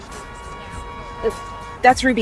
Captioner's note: horn honking